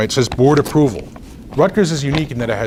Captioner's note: rustles papers